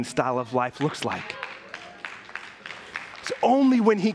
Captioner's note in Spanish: aplausos de la congregación